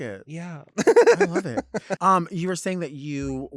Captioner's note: laughs